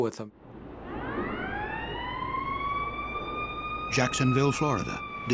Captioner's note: sound of sirens